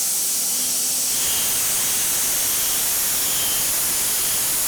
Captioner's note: saw whirring